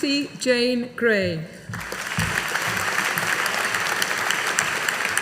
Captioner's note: audience applauding